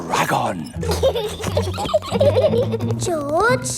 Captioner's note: both giggling